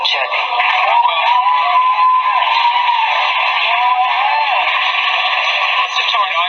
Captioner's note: loud roaring applause